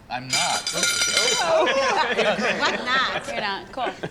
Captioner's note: clattering